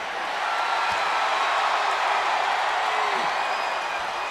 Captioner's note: crowd cheers